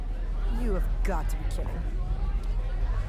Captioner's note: students chattering